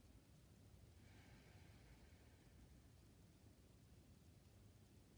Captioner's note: breathing deeply